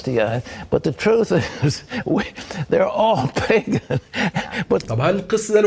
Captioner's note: laughter